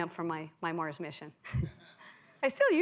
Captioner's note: laughs